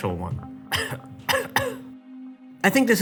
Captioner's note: cough; cough cough